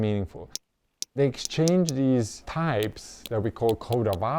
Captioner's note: whale clicking